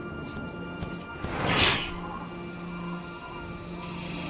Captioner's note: raptor panting; feet padding; mechanical whirring